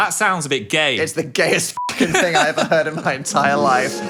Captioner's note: beep